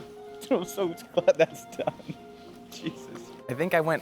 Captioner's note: laughs